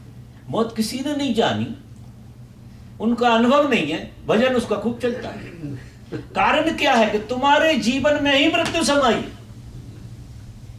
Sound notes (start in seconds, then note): 6.0 laughter